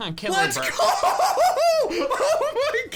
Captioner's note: laughs